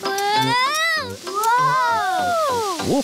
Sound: none

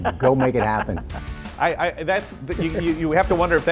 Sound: upbeat music; laughs

